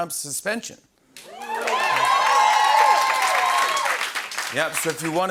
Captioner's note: cheering and applause